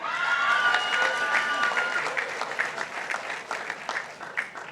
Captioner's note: participants applauding